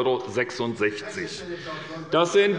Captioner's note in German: Zurufe von der SPD